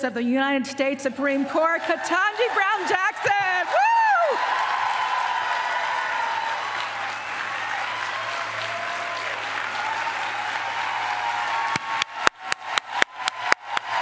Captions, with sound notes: of the United States Supreme Court, Ketanji Brown Jackson. [APPLAUSE]